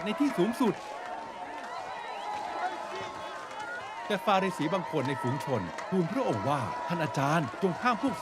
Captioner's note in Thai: ปรบมือ